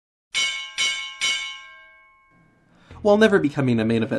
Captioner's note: bell dinging